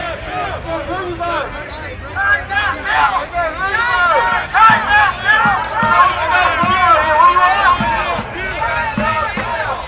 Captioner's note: whistle